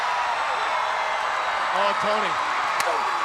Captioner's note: crowd cheering; chop striking